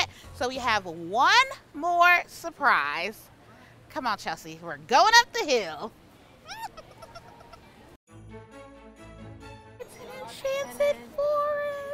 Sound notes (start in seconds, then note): 6.4 giggles; 8.1 lively music